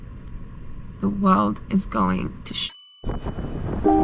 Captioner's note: bell dings